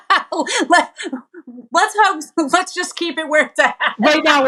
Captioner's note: laugh